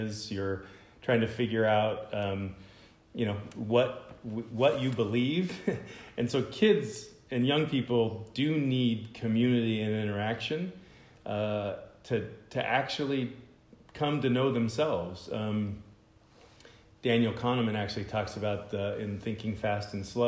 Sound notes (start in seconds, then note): 5.4 laughter